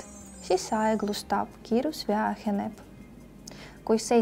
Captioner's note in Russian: скорость уменьшается